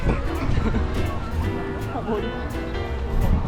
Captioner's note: successfully laughing